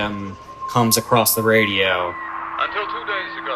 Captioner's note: soundbite of archived recording